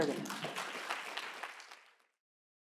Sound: applause

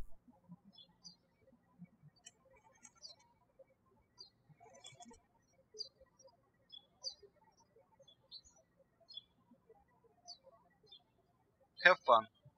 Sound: birds chirping

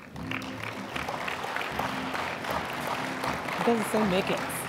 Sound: applause

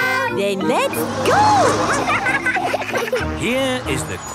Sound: laughing

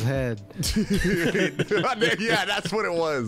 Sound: all laughing

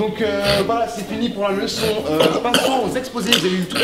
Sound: clears throat

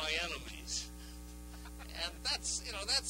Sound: laughter

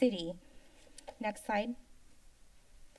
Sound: click

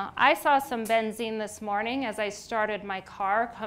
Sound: none

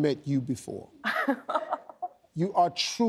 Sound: chuckles

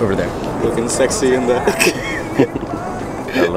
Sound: laughter

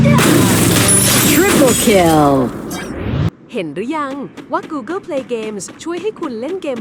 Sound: game Battle Sound Effects

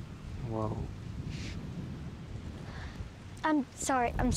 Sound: Rhyme gasps

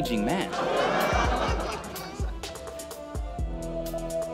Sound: laughter

